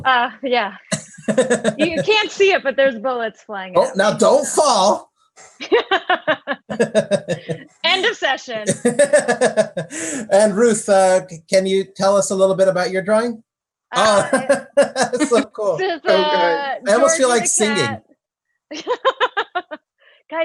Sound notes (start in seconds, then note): 5.6 laugh; 14.0 laughs; 19.2 laughs